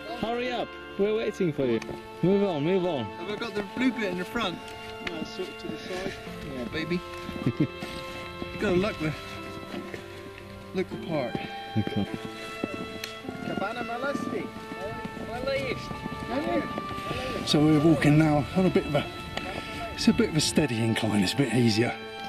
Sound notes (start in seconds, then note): 7.3 laughs